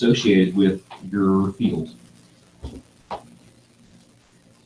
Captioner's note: silence while participants are working